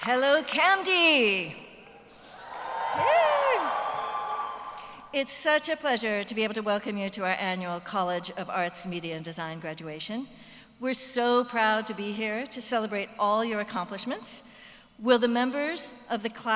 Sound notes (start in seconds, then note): 2.3 cheers